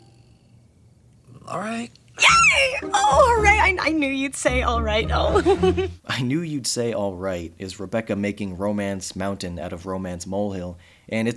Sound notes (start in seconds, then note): 5.1 laughs